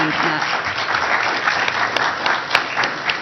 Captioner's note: applause